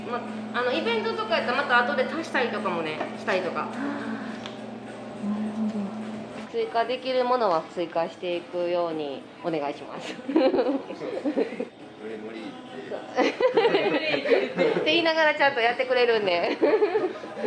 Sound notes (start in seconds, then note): 13.1 laughs